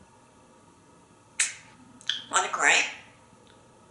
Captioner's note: sneeze